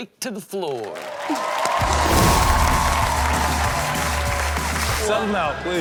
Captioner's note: crowd cheers; upbeat Rock music